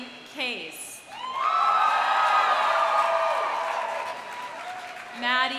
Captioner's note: audience cheering; audience applauding